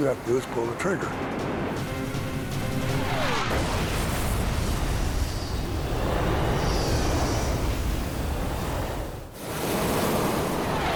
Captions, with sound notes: All you have to do is pull the trigger. [explosion]